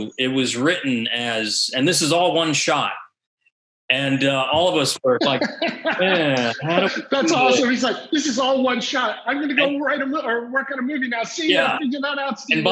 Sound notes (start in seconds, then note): 5.7 tentative tone; 7.1 laughs